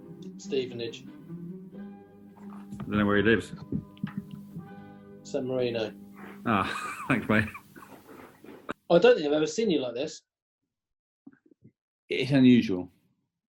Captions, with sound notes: Stevenage. Don't know where he lives. San Marino. [CHUCKLING] Ah! Thanks, mate. I don't think I've ever seen you like this. It's unusual.